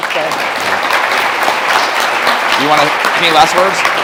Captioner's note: audience applauding